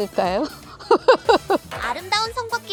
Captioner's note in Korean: 웃음